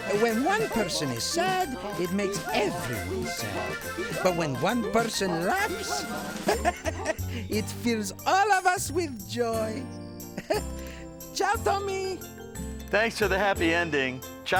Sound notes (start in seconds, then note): 6.8 laughs; 10.2 chuckles